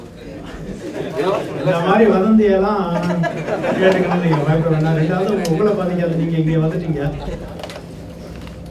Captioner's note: participants laugh